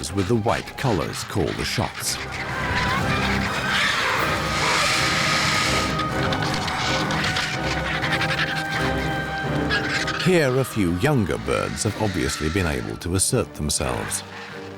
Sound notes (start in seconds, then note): 3.9 birds screeching